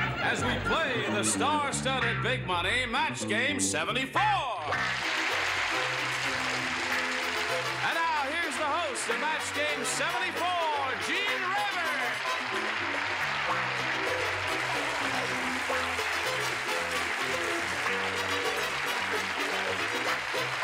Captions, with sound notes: As we play the star studded big money Match Game 74. [audience applause] And now here's the host of Match Game 74, Gene Rayburn. [upbeat music]